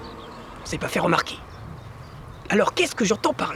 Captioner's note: sound of car passing